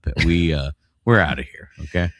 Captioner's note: uh